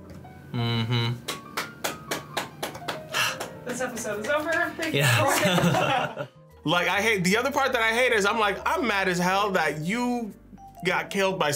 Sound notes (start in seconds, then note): 1.2 React applauds; 5.0 laugh